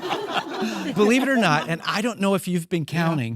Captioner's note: audience laughing